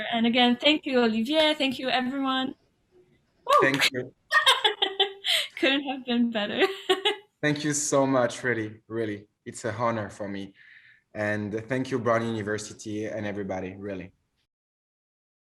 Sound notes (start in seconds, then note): 4.3 laughs